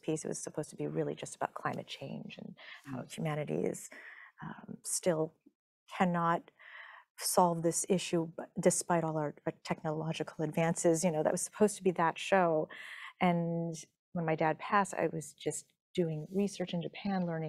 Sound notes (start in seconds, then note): none